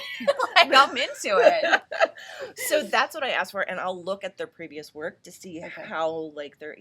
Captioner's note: laughter